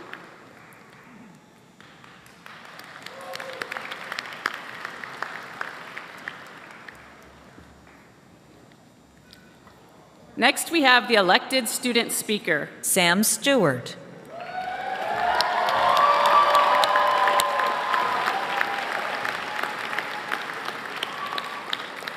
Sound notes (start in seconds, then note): 7.7 applause